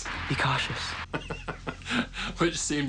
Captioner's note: laughs